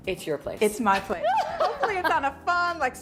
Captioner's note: laughs